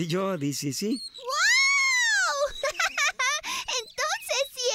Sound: giggling

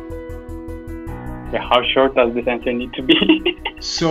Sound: laughs

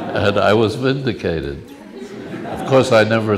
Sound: laughs

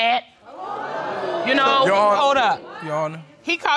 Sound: crowd crinjes

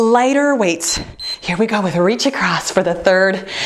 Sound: timer beeps

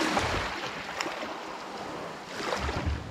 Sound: none

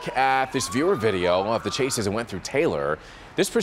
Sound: siren

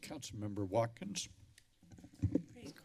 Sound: rustling sound; mic thump

